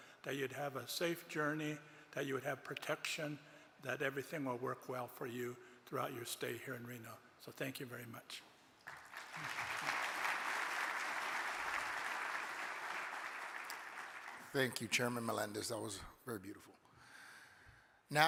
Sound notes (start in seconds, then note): 8.8 audience applauding